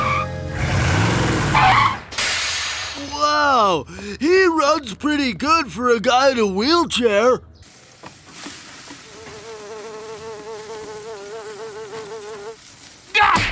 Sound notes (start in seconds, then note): 0.0 brakes squealing; 7.6 sizzling; 9.8 buzzing